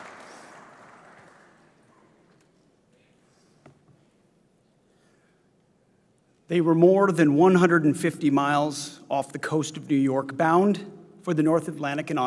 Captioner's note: applause